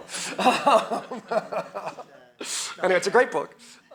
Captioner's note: laughs